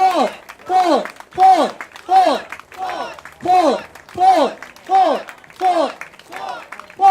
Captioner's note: crowd chants: "Fort! Fort! Fort!"